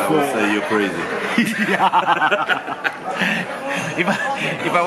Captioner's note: laughs